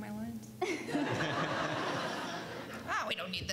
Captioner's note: laughs